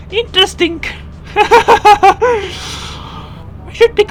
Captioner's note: laughter